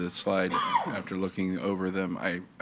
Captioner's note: attendee coughing